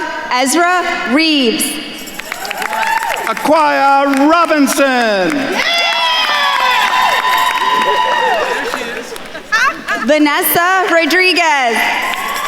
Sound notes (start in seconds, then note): 5.8 attendees cheering and applauding